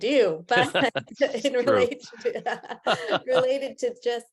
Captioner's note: laughs